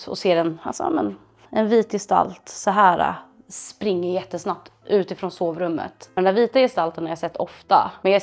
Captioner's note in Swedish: none